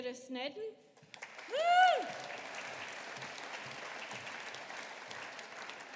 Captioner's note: audience applauding